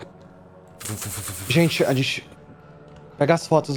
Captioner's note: fuf, fuf, fuf